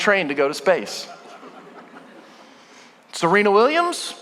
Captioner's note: congregation laughing